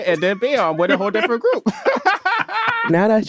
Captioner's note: laughs